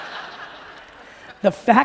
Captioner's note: audience laughing